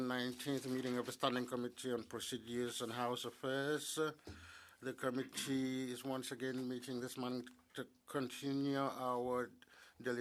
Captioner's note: speaking French